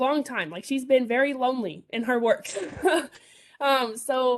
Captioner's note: chuckles